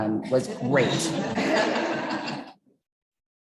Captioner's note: chuckling